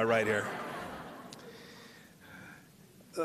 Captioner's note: laughter